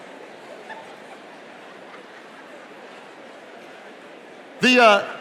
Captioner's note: attendee laughing